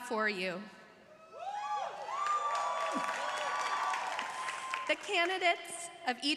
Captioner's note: crowd cheering